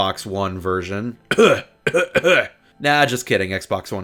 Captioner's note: exaggerated coughing noises